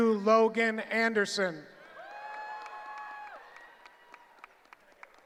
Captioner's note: cheering